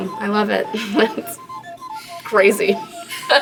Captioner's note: laughs